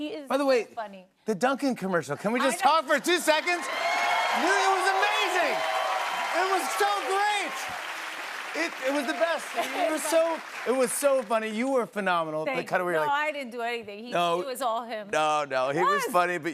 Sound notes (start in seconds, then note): 3.9 cheers and applause